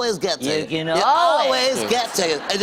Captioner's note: laughter